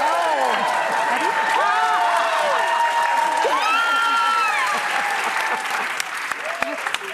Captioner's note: audience cheering